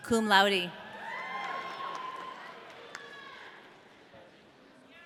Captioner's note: audience cheering